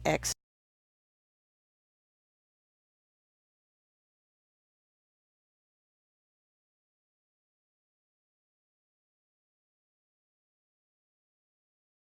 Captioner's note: silent